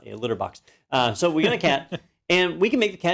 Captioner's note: laugh